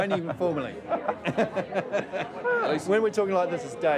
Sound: laughing

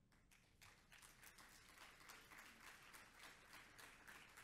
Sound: audience applauds

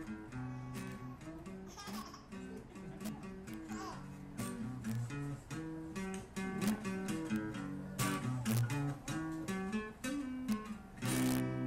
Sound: babies babling and gigling while music plays

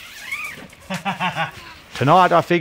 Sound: laughing

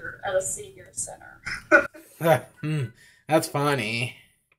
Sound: laughs

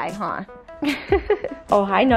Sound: laughs

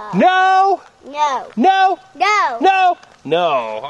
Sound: voiceover

